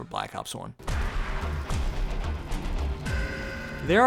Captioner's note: round change sound cue